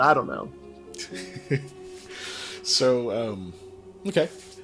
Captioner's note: laughs